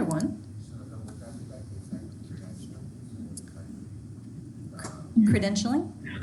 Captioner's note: speaking faintly